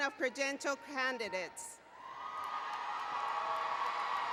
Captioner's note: applause and Cheering